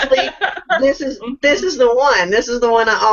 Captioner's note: laughs